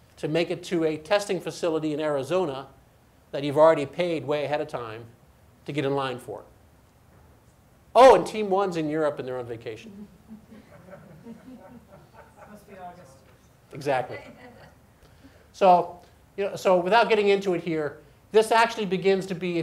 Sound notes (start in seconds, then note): 10.0 audience laughs